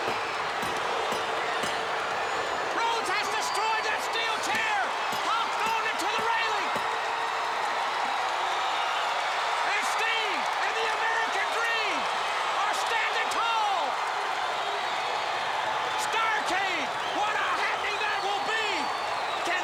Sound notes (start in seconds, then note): 10.9 crowd cheering